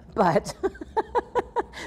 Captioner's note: laughs